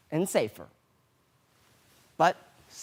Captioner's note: rustling